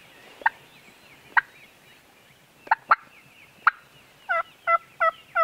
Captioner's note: imitating clucking